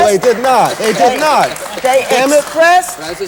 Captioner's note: applause